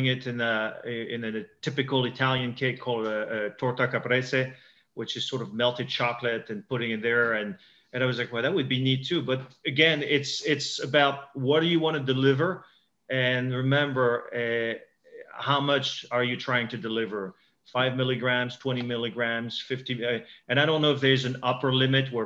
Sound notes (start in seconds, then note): 2.9 foreign language